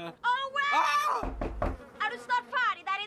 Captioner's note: knocking on the door